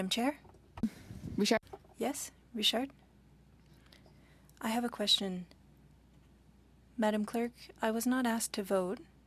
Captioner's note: speaking French